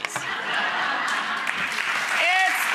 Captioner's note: audience laughs